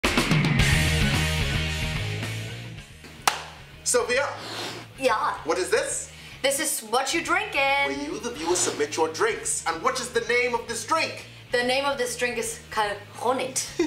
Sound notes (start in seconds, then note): 0.1 exciting music; 3.2 clap